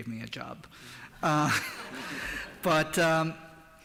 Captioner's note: laughter